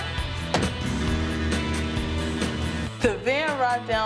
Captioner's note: upbeat rock music; engine hums; van door thuds